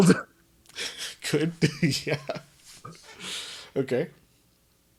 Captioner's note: laughs